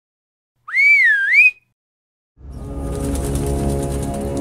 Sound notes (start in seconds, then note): 0.6 bird whistle; 2.4 dramatic music; 2.6 wings flapping